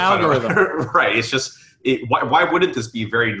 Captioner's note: giggles